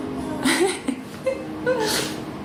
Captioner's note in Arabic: تضحك